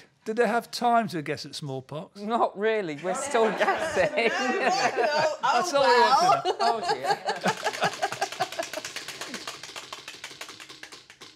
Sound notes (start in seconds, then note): 7.3 wheel clacking